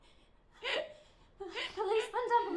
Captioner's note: woman crying softly